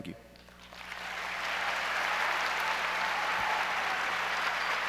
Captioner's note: audience applauds